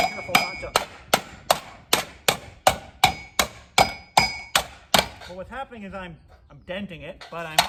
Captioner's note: hammer clanging